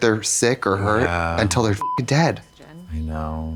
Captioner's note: beep